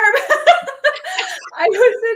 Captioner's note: both laugh